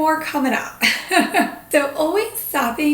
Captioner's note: laughing